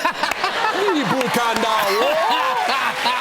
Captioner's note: laughter; speaking Mandarin; laughs